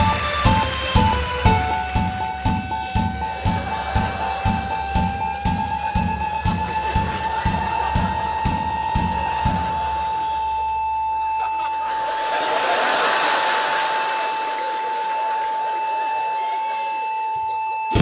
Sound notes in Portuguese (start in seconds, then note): 0.0 chimbal; 0.0 tambor; 1.5 bipes acelerados; 1.5 chimbal; 1.5 tambor; 9.7 bipe de parada cardíaca